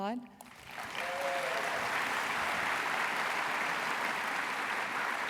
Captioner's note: applause